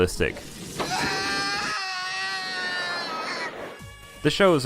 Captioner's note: screams in Japanese